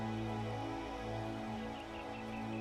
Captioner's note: birds chirping